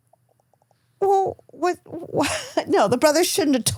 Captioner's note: chuckling